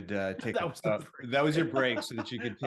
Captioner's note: laughs